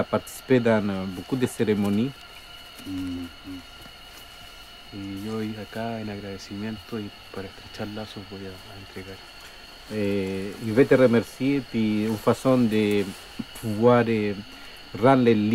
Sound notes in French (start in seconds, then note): 4.6 En espagnol